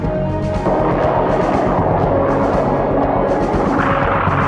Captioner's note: jet engine roaring